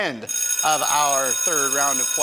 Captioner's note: alarm rings